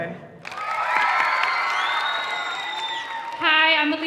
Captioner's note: audience cheering